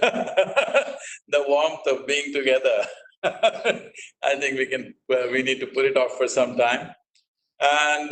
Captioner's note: laughs; laughs